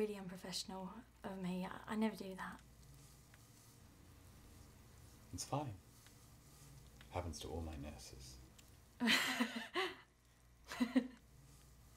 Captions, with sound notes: That was really unprofessional of me. I never do that. It's fine. Happens to all my nurses. [laughing]